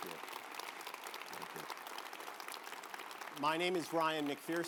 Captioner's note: audience applauds